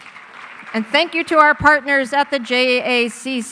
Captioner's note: audience applauding